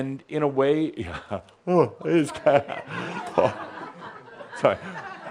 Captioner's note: someone yawns